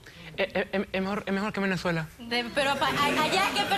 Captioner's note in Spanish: risas